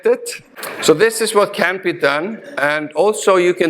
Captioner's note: audience laughing